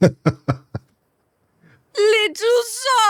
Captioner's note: laughs